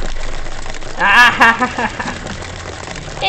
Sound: evil laugh

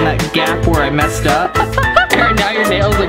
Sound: laughter

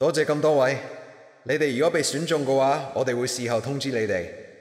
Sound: in Cantonese

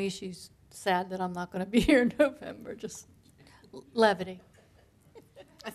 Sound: laughter

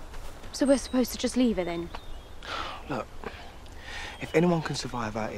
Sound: exhales

